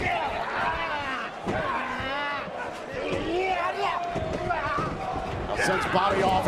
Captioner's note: crowd chatter